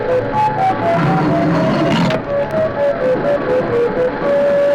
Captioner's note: metal scraping